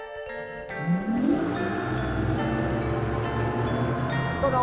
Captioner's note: engine revs